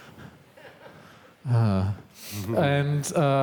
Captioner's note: audience member laughs; sighs